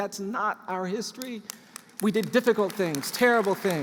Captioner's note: applause